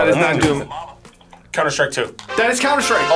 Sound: buzzer

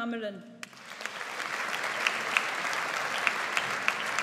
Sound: audience applauds

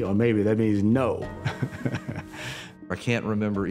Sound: chuckles

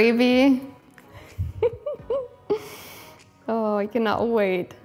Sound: laughs

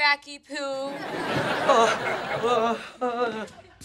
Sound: crowd laughing

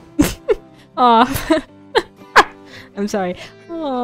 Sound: laughs; laughing

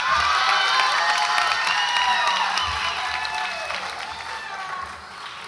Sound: audience applauds and cheers

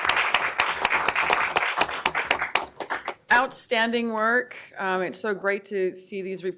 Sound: applause

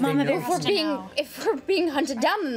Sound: overlapping chatter

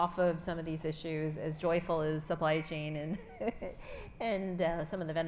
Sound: chuckles

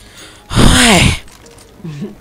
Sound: sigh

